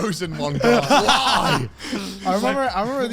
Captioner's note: laughs